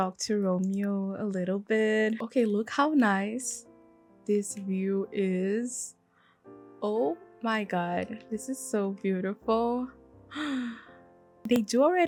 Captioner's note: gasp